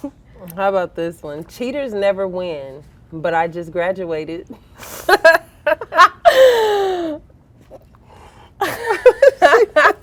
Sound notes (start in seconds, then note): 5.0 girls laughing